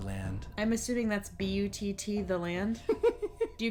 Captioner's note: giggles